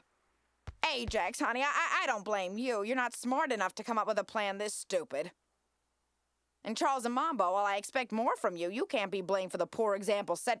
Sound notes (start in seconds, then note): none